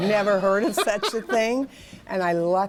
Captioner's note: laughter